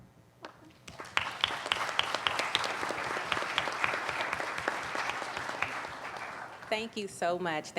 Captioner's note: applauding